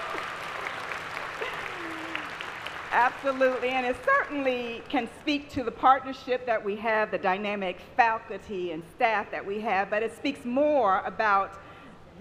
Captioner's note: applause